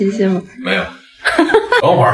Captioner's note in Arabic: هاهاها